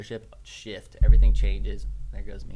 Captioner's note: microphone booms